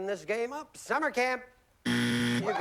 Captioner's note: buzzer